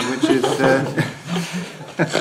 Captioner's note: laughter